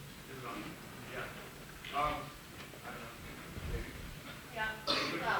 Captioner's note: audience chattering